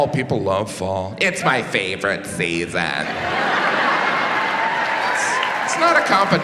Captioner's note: audience laughs